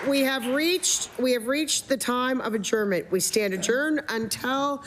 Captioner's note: some Applause